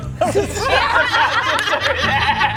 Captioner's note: laughs